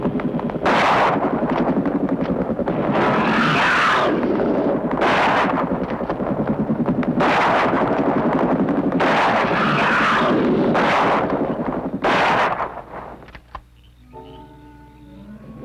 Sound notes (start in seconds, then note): 1.0 gunshot; 3.0 screeching